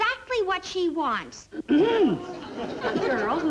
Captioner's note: Joan clearing throat